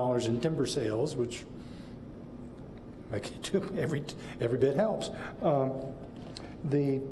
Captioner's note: laughs